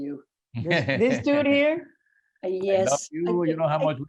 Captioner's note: laughing